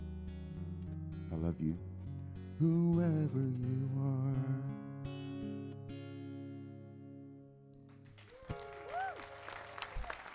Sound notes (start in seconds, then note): 8.2 audience cheering